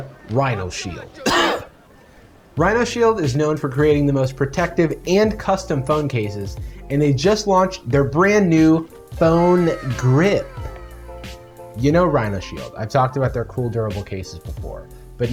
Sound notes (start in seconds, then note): 0.0 coughs